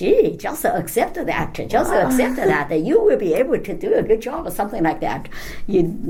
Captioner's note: laughs